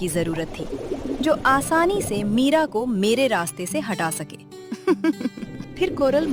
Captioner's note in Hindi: हंसी